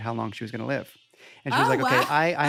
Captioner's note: laughs